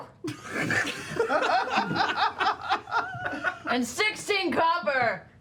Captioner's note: laughter